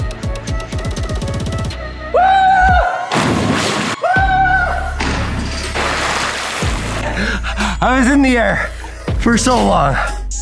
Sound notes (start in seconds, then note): 2.2 screams; 3.1 water splashes; 4.1 screams; 4.9 water splashes